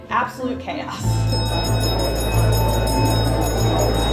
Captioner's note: bell ringing